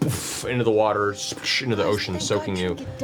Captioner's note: splash